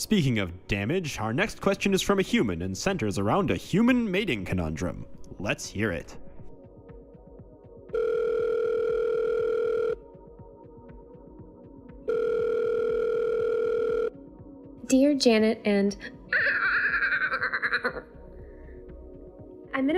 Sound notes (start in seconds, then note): 7.9 phone Rings